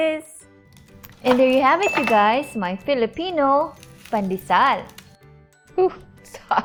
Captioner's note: thud; chuckles